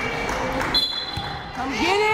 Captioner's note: whistle blaring